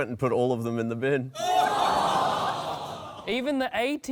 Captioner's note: laughter